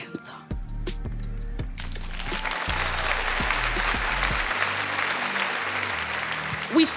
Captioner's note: audience applauding; audience cheering